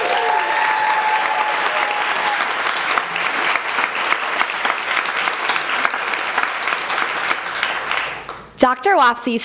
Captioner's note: applause